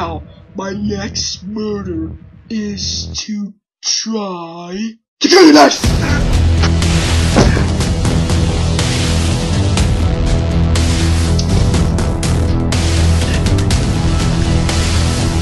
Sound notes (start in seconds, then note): none